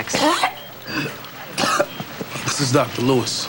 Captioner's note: coughing